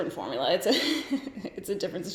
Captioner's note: giggles